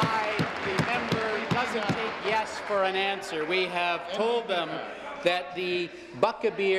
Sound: applause

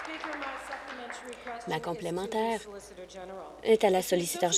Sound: applause

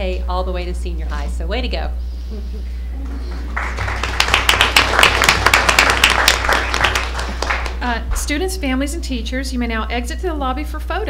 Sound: applause

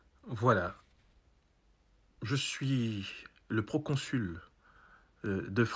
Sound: ambassador speaking in foreign language

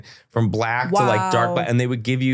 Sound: laughing

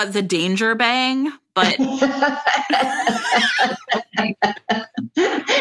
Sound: laughter

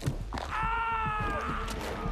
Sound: screams

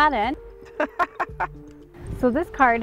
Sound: laughs

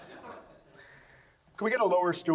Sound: audience laughs

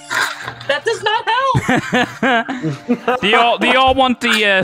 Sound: group laughter

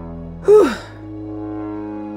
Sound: sigh in relief

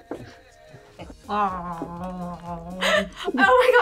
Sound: gargles

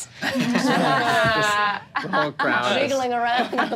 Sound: laughs

